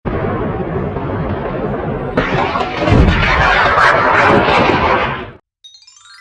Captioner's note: jet fighter sound